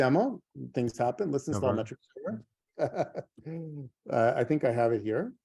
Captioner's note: laughs